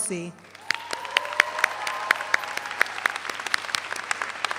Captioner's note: all applaud